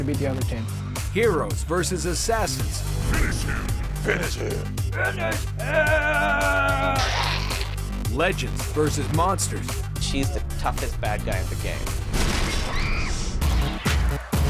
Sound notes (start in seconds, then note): 5.2 deep voice; 12.6 screaming